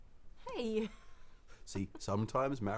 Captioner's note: laughs